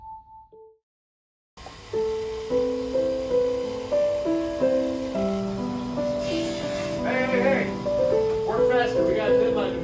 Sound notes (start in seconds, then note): 1.6 machine buzzing; 1.8 gentle piano music